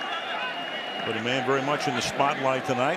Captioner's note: cheering